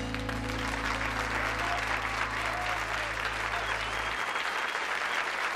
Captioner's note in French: applaudissements